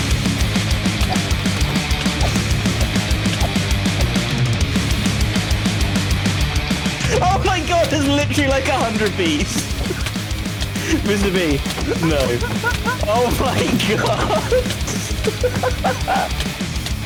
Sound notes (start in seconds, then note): 13.9 hysterical laughter